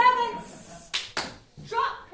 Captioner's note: clap clap